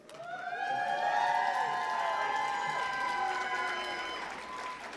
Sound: cheering

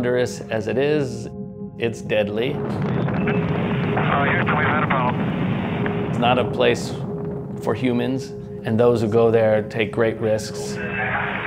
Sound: rumbling sound of rocket engine; rocket engine sound fades out

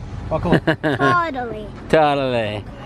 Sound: laughing

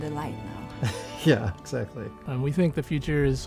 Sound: laughs

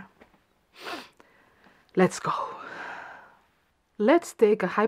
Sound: sniffles

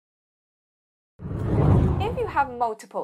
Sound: screen whooshing

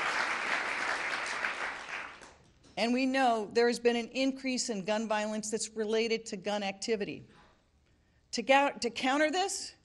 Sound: applause

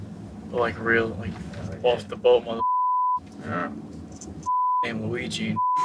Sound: beep

